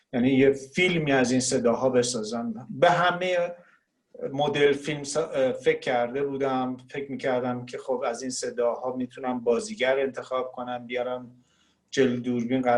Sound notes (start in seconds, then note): 4.0 speaking Farsi